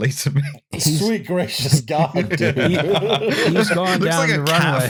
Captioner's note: laughter